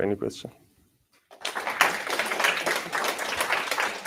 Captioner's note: applause